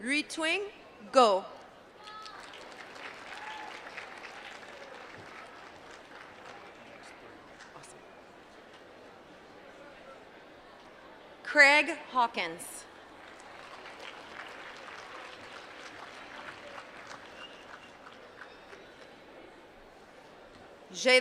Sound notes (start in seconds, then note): 6.9 applause; 17.1 applause